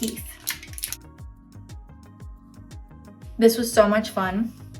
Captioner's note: package crinkling